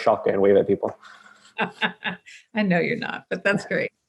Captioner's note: laughs